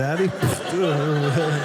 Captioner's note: audience laughing